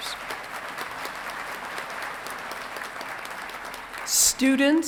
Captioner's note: audience clapping